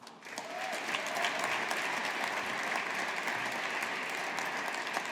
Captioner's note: audience applauding